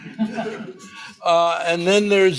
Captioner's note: group laughs